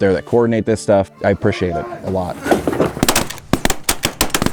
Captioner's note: hunters yelling; guns popping